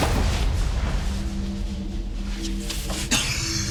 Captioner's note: suspenseful music continues; fighters scuffling; Frank coughing